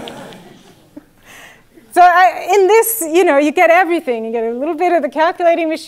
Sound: laugh

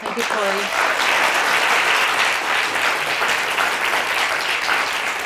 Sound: audience applauding

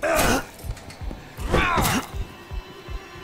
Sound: grunts

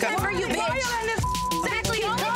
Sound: beep

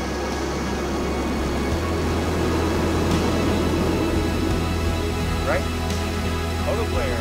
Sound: jet engine

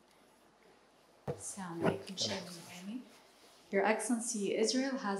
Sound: speaking in foreign language

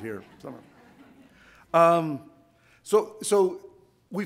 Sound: audience laughs

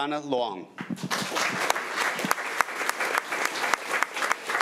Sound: crowd clapping

